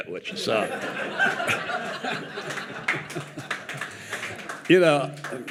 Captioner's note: audience laughing and applauding